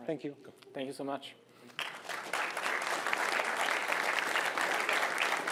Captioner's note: applause